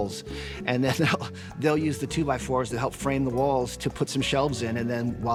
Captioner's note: chuckles